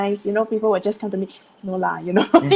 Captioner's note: foreign language